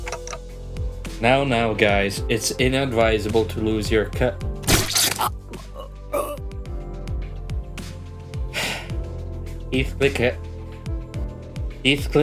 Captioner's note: sigh